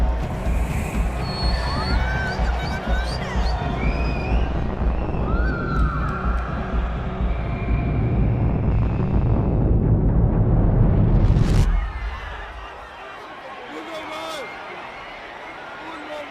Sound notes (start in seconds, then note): 3.4 cheers; 10.3 overlapping shouting